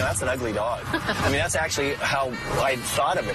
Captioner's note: laughing